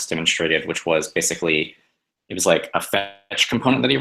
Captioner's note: distortion